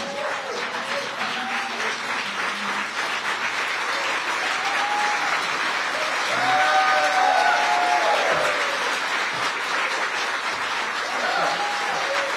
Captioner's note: applause